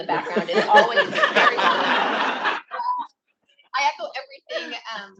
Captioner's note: drowned out by attendees laughing